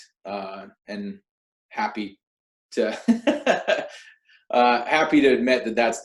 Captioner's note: laughs